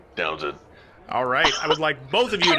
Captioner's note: coughing